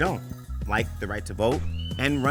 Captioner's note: eagle screeches